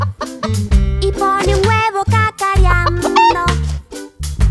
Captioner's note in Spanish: Sonido de gallina; Sonido de gallina